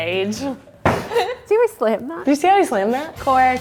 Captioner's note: bottle slams